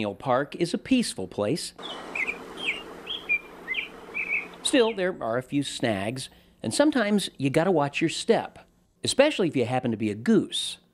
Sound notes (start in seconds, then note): 1.8 birds singing